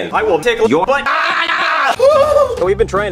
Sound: man yells

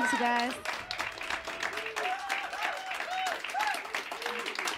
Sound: cheers and applause

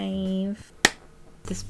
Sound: clap

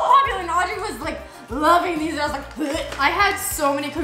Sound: imitates gagging

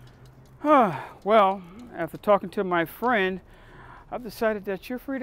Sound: exhales

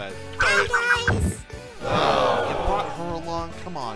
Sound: Team 3 groans

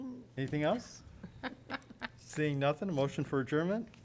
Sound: laughter

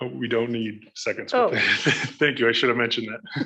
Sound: laughs

